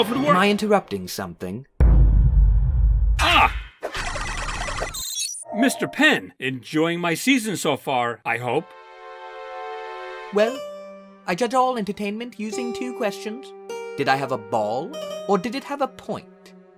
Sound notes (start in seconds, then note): 1.8 dramatic boom; 5.5 loading noise